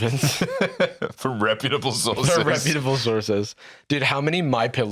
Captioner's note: laughing